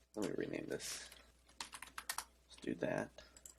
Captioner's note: typing